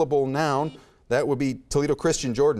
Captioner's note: buzzer beeps